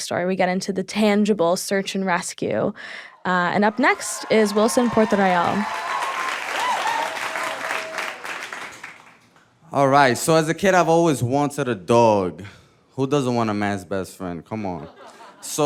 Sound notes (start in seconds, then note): 5.6 audience cheering; 5.6 audience clapping; 14.7 audience laughing